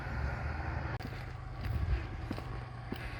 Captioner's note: footsteps